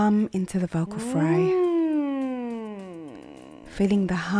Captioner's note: humming continues